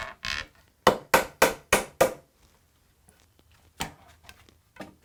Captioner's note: wood squeaks; gentle hammering